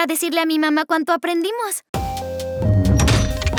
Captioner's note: robot encendiéndose